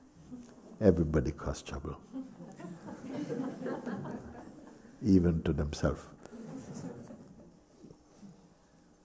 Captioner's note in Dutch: gelach